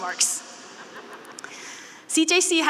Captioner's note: students laughing